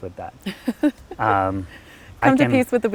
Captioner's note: laughing